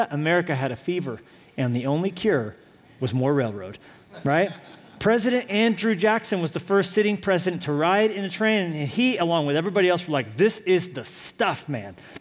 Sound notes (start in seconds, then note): 4.2 laughter